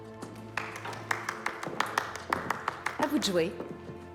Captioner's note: people clapping